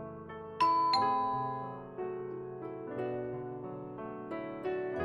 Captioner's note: ding dong